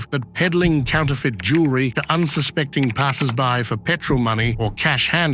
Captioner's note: none